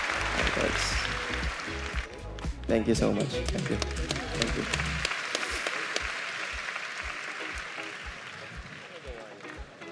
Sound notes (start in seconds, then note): 3.2 audience applause